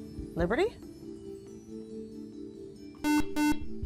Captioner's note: buzzer